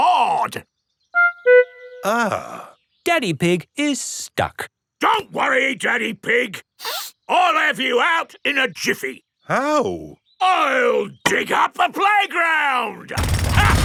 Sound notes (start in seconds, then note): 6.8 sniffs; 13.2 drilling and laughing